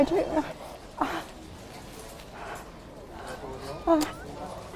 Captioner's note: scared, nervous breathing